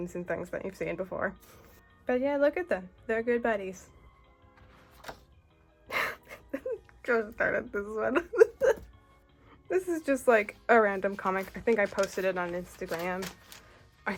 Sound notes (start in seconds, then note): 8.2 laughs